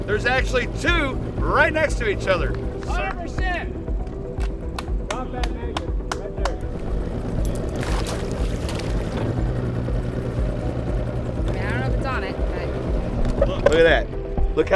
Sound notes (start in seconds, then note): 4.3 clapping